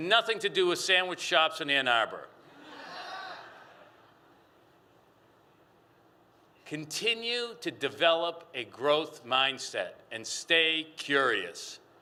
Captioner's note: laughter